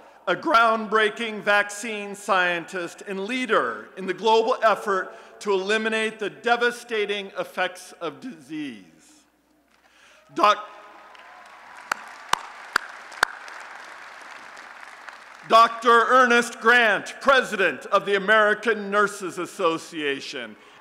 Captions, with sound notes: a groundbreaking vaccine scientist and leader in the global effort to eliminate the devastating effects of disease. [ Applause and Cheering ] Dr. Ernest Grant, President of the American Nurses Association